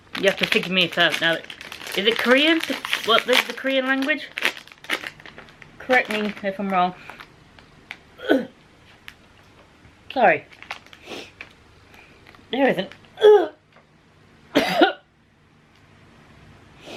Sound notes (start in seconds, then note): 8.1 gags; 14.5 coughs